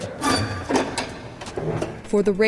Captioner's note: press screeches